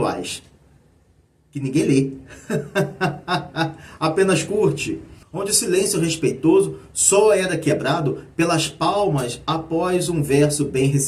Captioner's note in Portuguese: risadas